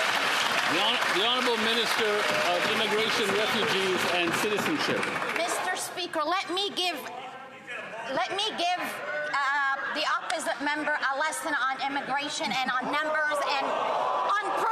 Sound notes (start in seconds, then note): 0.0 some Applause